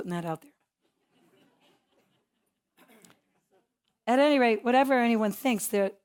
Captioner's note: laugh